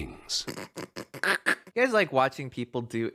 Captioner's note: stifled laughter